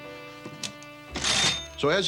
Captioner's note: register rings